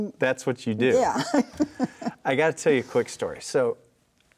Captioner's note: laughs